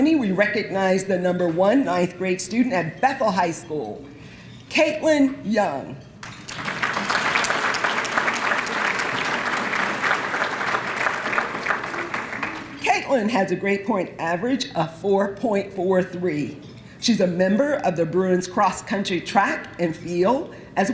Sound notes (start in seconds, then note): 6.2 applause